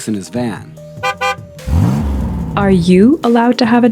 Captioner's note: van horn honking & engine revving